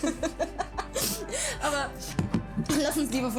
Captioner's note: glass bangs on table